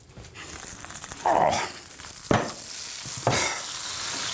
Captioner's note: sizzling